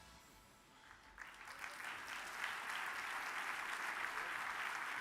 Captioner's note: audience applauds